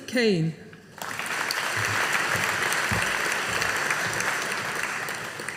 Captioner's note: audience applauding